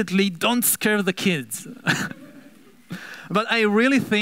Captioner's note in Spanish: risas